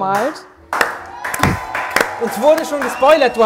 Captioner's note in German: Jubel, Applaus